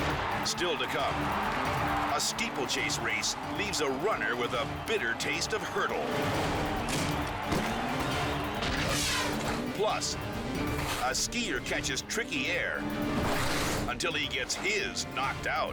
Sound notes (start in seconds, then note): 6.7 head thudding